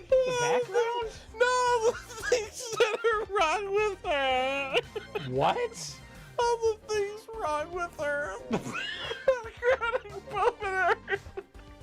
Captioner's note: laughing